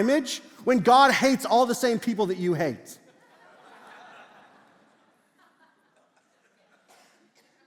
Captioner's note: congregation laughs